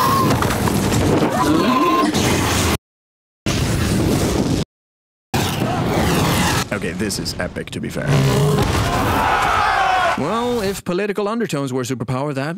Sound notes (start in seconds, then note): 1.3 dragons screeching; 8.2 all yelling